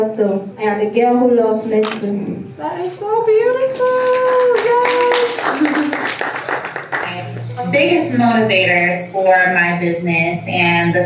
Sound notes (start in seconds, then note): 3.6 applause